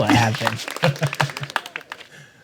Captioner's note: laughter